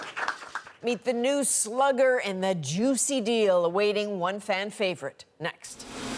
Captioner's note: applause